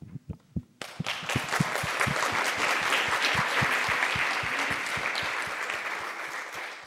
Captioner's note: applause